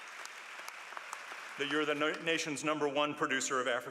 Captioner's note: applause